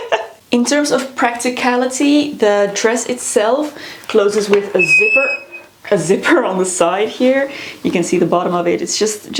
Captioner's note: squeek